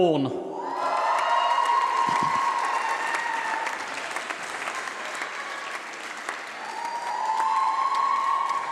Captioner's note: applause